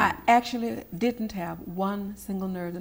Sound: none

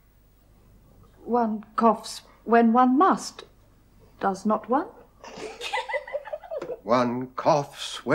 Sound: sisters laughing

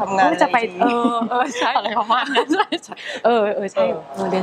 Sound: laughing

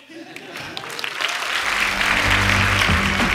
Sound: audience laughing and applauding; upbeat music

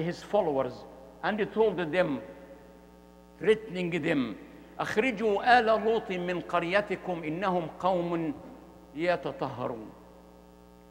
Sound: Arabic

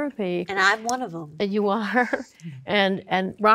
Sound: chuckling

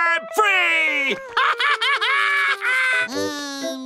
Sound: laughing

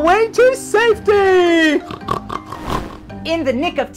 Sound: pigs snorting and grunting

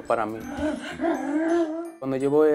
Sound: gruñidos

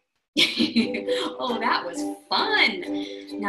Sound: laughs

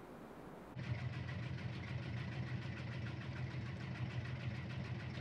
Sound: washing machine rumbling

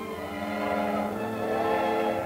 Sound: train whistles

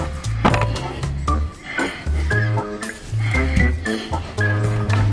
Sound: picture bangs on floor

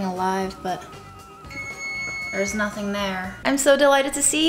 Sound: alarm rings

